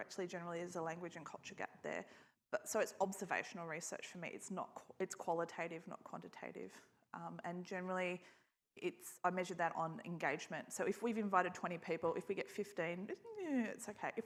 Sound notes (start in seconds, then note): none